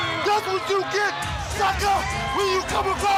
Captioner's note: crowd chatter